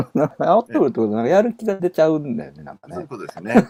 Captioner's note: laughs